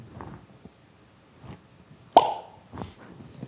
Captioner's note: pops loudly